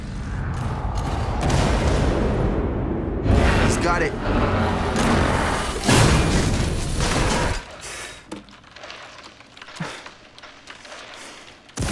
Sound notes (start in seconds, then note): 3.0 fire roaring; 4.7 guns firing; 6.3 bombs exploding